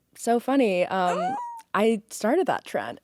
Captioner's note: Courtney squeals